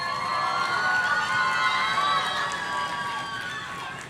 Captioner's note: audience cheering